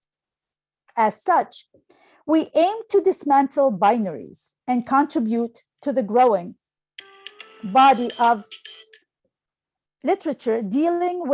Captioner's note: phone ringtone